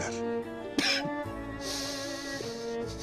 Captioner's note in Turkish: Öksürme sesi